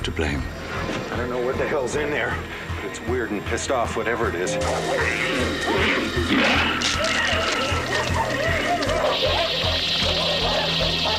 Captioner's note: screaming